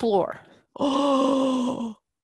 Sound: gasp

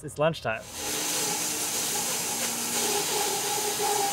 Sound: saw whirs

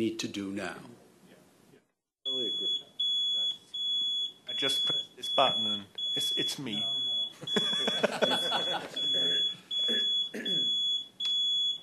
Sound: laughter

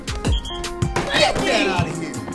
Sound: referee whistles

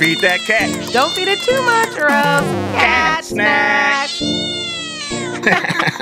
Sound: meow; laughing, Game music

